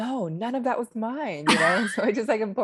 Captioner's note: laughs